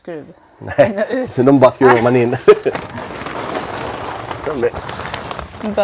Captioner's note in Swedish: skratt